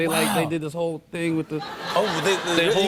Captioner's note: laughter